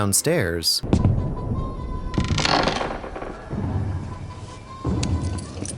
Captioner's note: creak